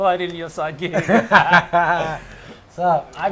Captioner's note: laughs